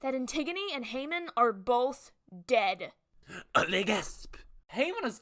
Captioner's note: le gasp